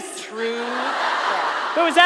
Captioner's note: audience laughter